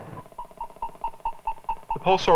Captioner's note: beeping